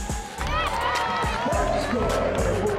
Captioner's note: crowd cheering